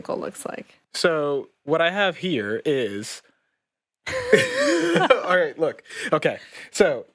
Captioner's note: laughs